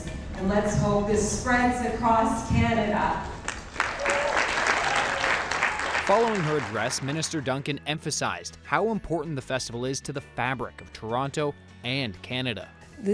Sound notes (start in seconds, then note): 3.4 applause